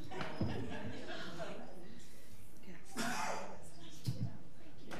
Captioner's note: people chattering